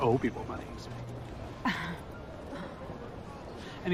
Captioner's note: chuckling